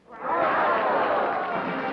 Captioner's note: audience shouting